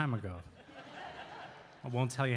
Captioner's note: audience laughs